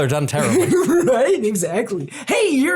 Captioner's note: laugh